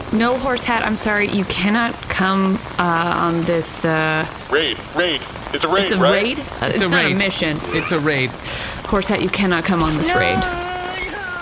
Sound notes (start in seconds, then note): 4.2 excited